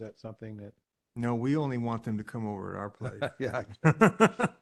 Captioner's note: laughter